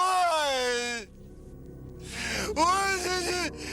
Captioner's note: crying